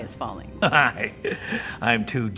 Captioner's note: chuckles